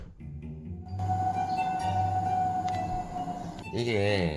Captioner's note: ghost sound